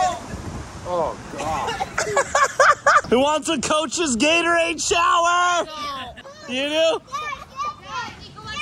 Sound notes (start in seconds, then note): 1.4 laughing